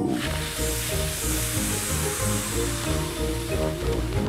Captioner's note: all blow